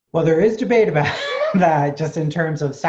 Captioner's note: laughs